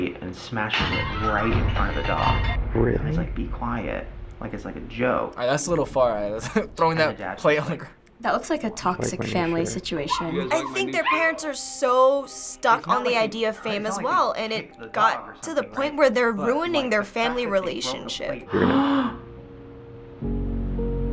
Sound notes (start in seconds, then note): 18.5 gasps